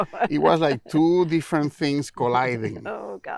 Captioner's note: laughing